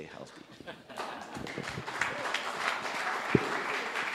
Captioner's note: applause